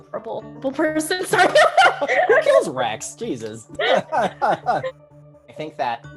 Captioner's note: laughs